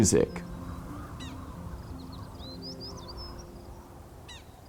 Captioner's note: wind sighing and birds chirping